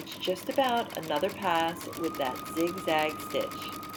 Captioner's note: machine sounds